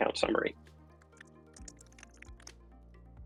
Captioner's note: typing